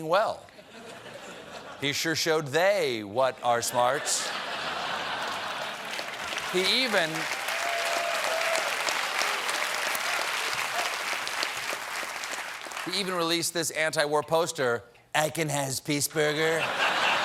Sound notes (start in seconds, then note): 3.7 applause; 3.8 laughter; 4.8 cheers